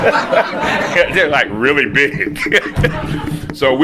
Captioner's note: laughter; laughs